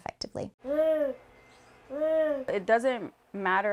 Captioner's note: vocalizing